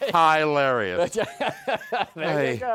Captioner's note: laughs